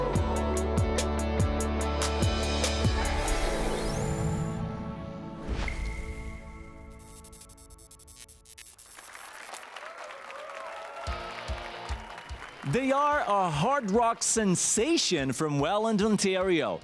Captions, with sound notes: [APPLAUSE AND CHEERS] They are a hard rock sensation from Welland, Ontario,